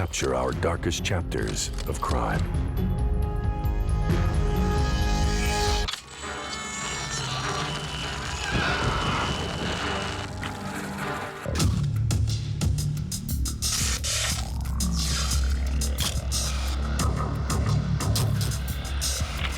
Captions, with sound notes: THEY CAPTURE OUR DARKEST CHAPTERS OF CRIME. -[intense music] -[shutter clicks] [screeching] [industrial music]